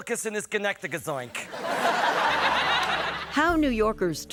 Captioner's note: laughter